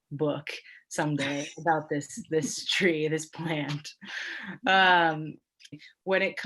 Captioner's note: laughs